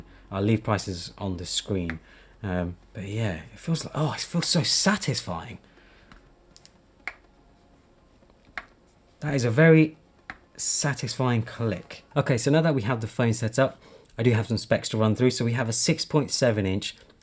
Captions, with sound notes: I'll leave prices on the screen. But yeah. Oh, it feels so satisfying! [phone gently clicking] That is a very satisfying click. Okay, so now that we have the phone set up, I do have some specs to run through. So we have a 6.7 inch,